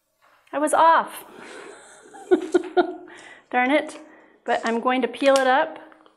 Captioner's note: laughs